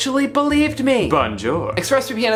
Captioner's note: speaking in foreign language